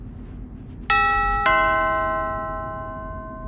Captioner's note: doorbell chime